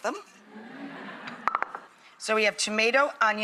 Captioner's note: audience laughter